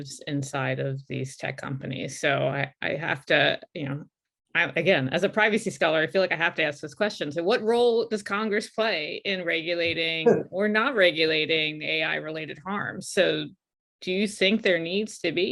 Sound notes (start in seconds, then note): 10.5 laughs